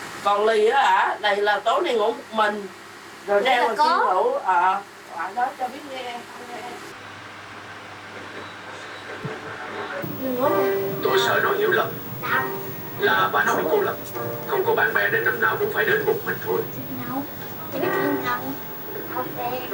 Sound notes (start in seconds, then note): 10.1 tv voice